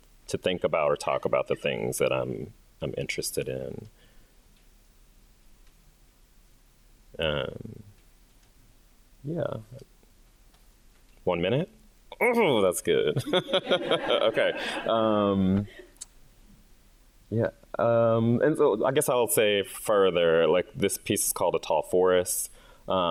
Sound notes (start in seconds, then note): 13.0 chuckles; 13.2 audience laughing